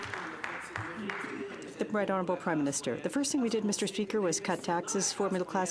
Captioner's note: some Applause